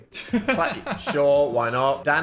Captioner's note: laughs